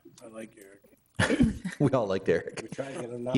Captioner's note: chuckling